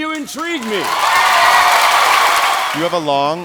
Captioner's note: audience applauding